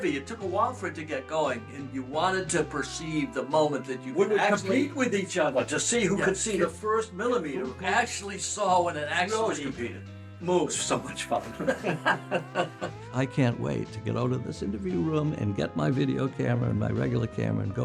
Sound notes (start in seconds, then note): 10.9 laugh